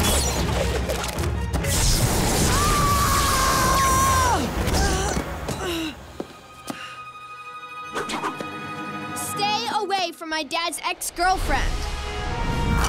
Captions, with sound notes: [screaming] [groaning] Stay away from my dad's ex-girlfriend!